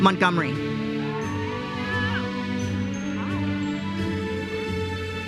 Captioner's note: audience cheers and applauds